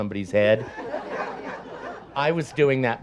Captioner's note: audience laughs